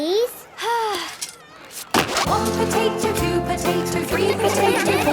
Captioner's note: Belinda sighing; laughter